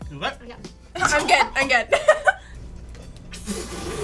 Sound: laughs; sputters

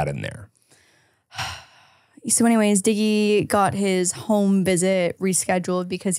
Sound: sighs

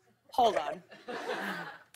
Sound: laughter

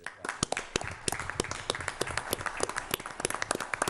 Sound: applause

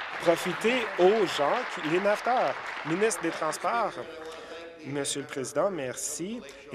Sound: applause

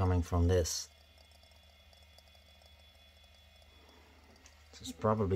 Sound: ticking sound

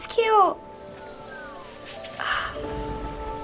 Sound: gasps; in game: chirruping

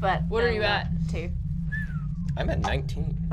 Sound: whistles

